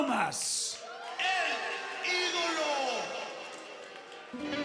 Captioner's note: crowd cheering